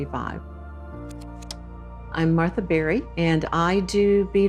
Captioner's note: slide projector clicks